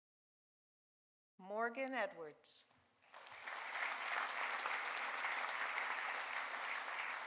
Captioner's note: audience applauding